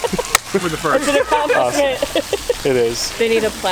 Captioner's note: laughing